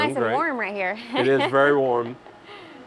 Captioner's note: laughs